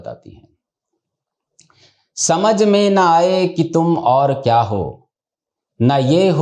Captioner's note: reading the lyrics in Hindi